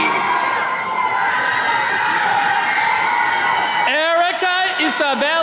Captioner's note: attendees cheering